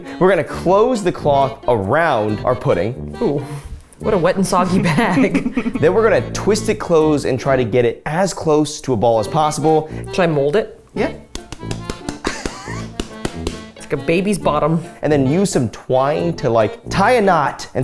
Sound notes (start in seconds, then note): 11.2 hand slaps